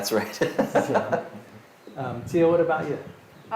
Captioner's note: group laughing